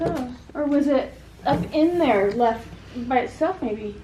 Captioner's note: none